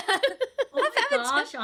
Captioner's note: laughing